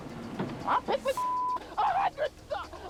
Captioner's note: beep